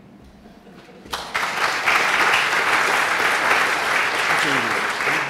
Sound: applause

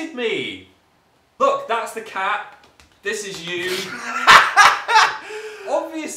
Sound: Dan laughs

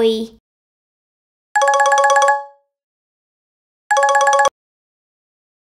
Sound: phone ringing

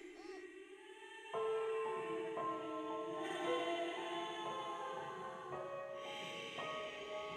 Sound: lover sobbing; soft tense music

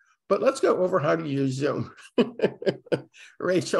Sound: laughs

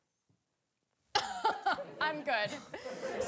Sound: laughing

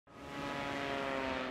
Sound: airplane flying in

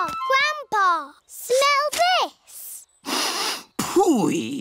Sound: sniffs

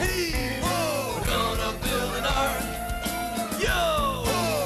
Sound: elephant trumpets

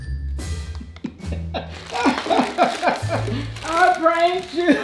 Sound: laughing

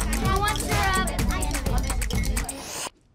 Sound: all chattering

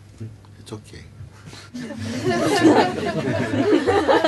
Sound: laughter

